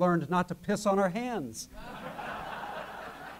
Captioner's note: laughter